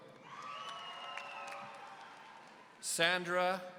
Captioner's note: audience cheering